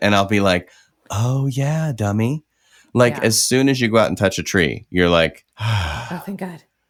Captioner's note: sigh